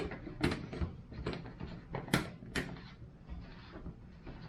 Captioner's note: plastic clatters